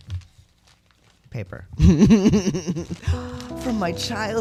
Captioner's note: laugh; sentimental music